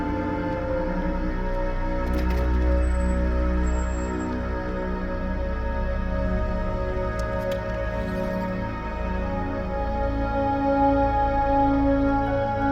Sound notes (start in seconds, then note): none